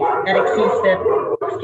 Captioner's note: dog barks